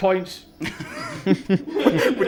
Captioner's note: laughter